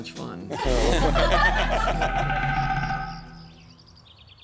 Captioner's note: group laughing